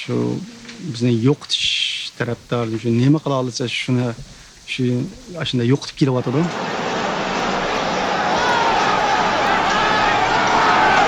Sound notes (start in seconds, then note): 6.9 crowd shouting in foreign language